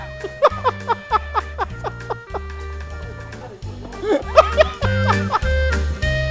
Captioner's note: laughs; instrumental music